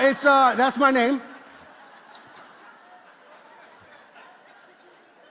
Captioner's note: congregation laughs